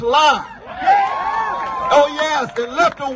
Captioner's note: cheers